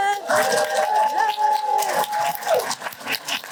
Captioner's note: applause and cheering